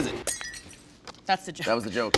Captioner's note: glass breaks